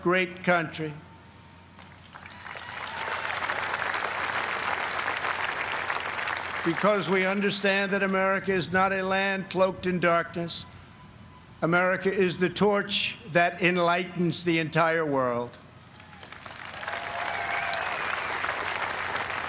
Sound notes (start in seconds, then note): 5.6 applause